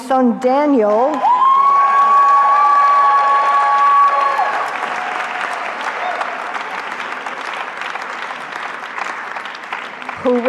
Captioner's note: cheering